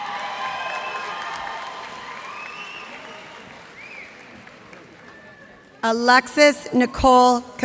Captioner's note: cheers and applause